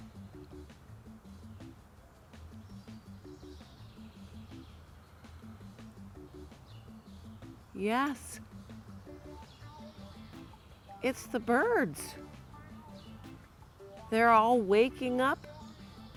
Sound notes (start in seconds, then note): 0.2 cheerful music; 3.4 birds chirping